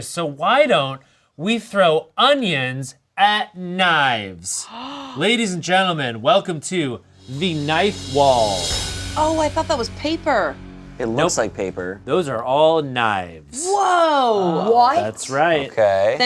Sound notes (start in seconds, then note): 4.6 gasps; 7.0 dramatic music